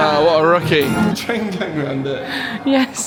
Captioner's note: laughing